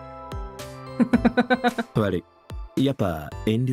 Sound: chuckles

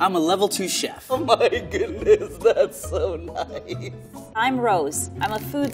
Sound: laughs

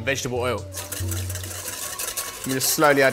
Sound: whisk clattering

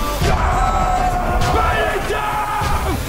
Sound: all yelling

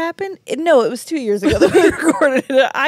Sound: laugh

